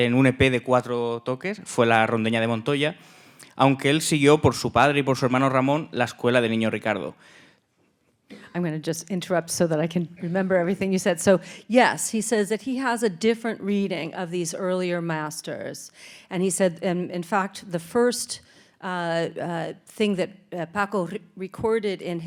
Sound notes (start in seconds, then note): 3.4 speaking in Spanish